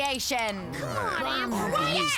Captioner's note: all grumbling